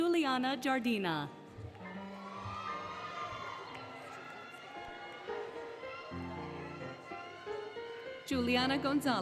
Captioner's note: applause, Cheering, Music